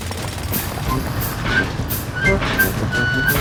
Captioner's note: drilling